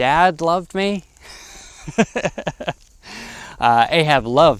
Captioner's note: laughs